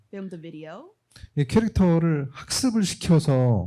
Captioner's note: speaking korean